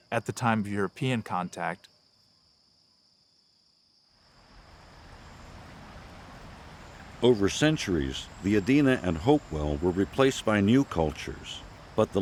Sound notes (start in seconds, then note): 2.2 crickets chirping; 4.4 river burbling